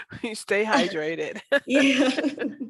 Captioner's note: laughs